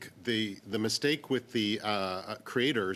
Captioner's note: speaking french